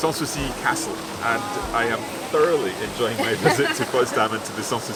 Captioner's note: both laugh